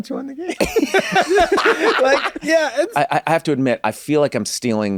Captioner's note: group laughs